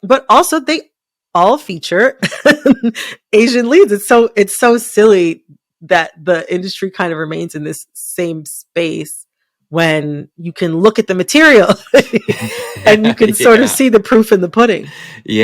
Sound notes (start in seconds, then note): 11.7 laughter